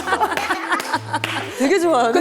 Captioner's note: giggle